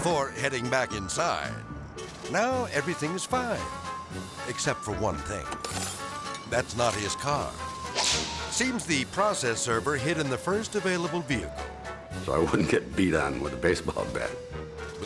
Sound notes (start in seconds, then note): 0.0 shouting; 5.5 glass shattering; 7.9 air swoosh